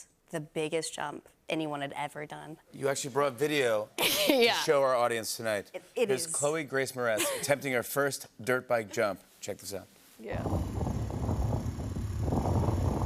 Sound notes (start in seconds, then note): 10.4 engine revving